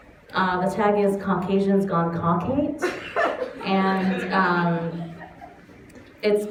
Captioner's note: laughter